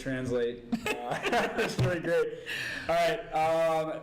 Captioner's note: group laughs